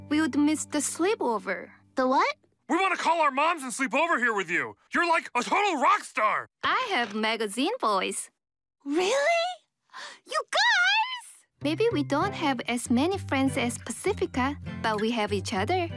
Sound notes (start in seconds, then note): none